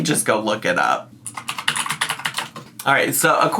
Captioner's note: keyboard clicking